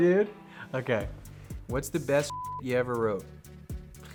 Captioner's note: beep